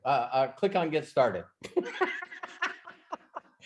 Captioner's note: laughs